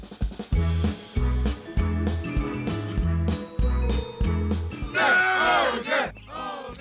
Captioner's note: chanting